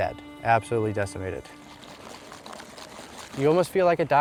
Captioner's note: shaking